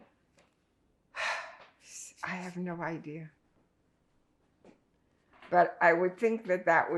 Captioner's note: sighing